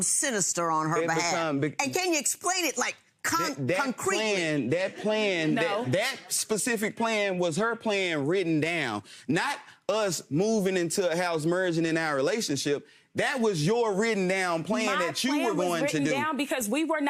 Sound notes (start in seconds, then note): 4.7 audience chuckles